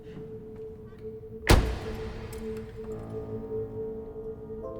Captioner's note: car door thuds; suspenseful music